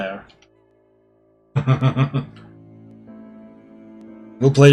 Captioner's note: laughs